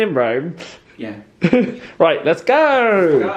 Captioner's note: laughing